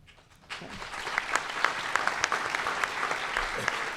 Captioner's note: applause